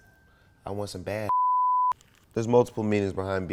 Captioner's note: beep